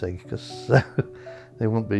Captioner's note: laughs